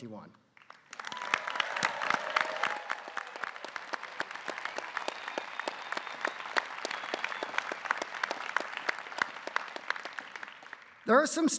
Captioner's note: applause